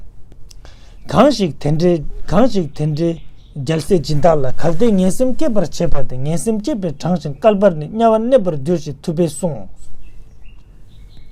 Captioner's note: tibetan